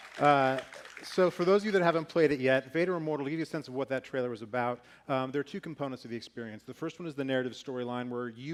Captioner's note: applause